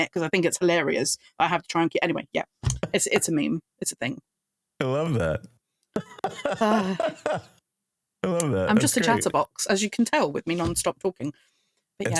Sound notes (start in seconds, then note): 6.0 laughing